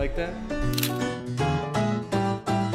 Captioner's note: camera stutter clicks; chill music